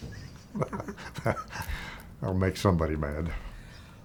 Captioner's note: chuckling